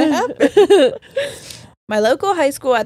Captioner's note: all laughing